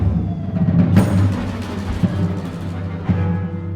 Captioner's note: cannonball whisling through the air; explosion